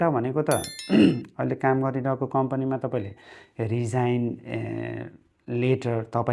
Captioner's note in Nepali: घाँटी सफा गरेको आवाज